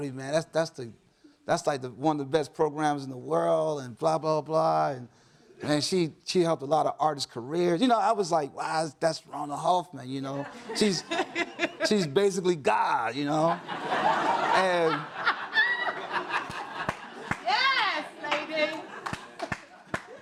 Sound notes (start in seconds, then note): 10.4 laughs; 13.4 audience laughs